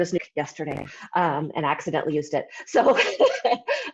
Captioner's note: laughs